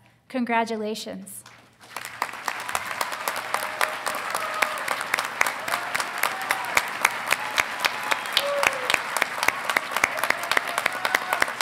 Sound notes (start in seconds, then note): 1.8 audience applauding; 2.0 audience cheering